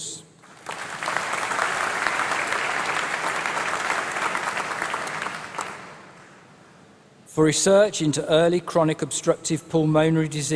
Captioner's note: applause